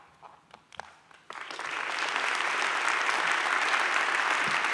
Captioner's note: audience claps